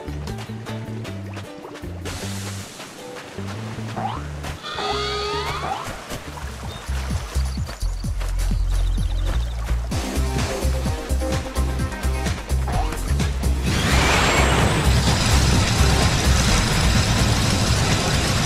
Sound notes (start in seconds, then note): 4.5 jump sound; 4.5 siren noise; 13.7 rocket sound